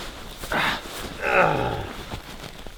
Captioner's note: grunting